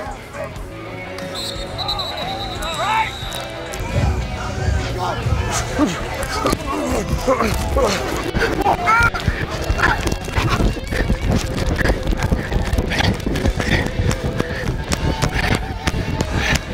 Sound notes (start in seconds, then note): 1.2 whistle blows